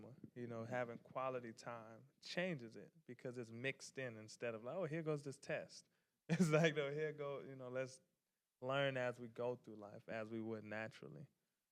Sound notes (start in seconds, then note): 6.3 laughing